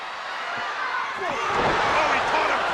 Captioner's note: audience gasping; presenter speaking faintly off mic